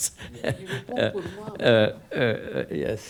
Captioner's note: laughs; speaks faintly